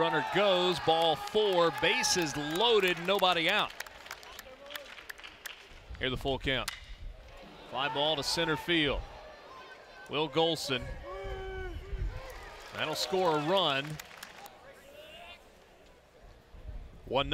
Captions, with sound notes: Runner goes, ball four, bases loaded nobody out. [Clapping] Here's the full count. [Ball hitting bat] Fly ball to centerfield. Will Golsan. That'll score a run.